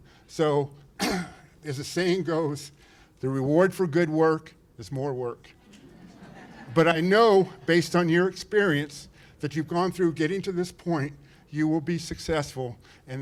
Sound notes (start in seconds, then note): 5.6 laughter